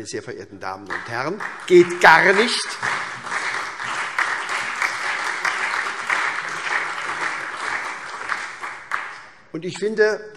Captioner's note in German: Allgemeiner Beifall